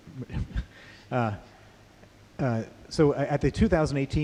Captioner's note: chuckles